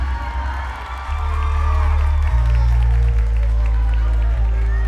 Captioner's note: crowd cheering and clapping